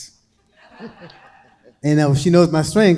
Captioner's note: crowd laughing